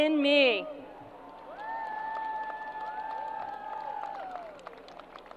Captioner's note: crowd applause